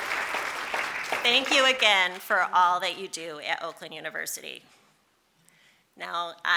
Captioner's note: applause